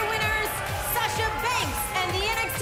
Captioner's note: bell ringing; cheers & boos